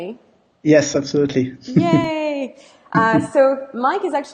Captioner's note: chuckles